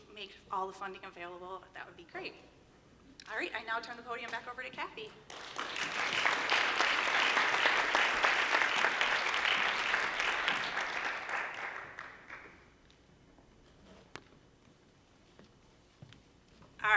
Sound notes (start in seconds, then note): 9.7 applause